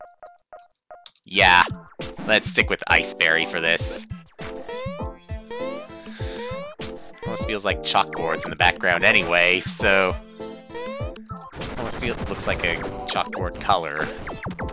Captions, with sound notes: Yeah. Let's stick with Iceberry for this. (*inhaling*) It almost feels like chalkboards in the background, anyway, so... ...so it almost feel- looks like a chalkboard color.